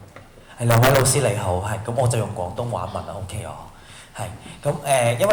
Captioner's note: Cantonese